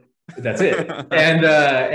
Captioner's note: laughing